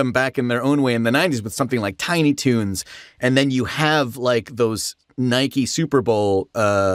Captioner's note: none